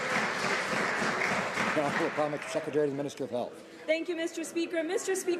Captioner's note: some Applause